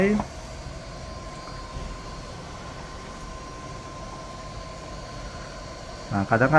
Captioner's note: printer machine noise